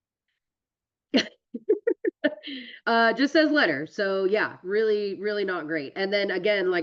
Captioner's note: laughs